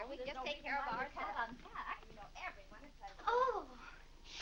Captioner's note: women chattering